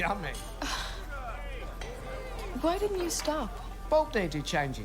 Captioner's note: sighs